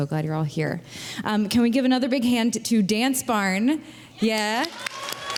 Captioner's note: applause